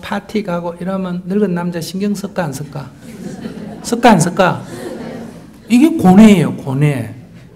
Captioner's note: audience Laughter